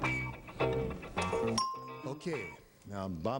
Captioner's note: bell rings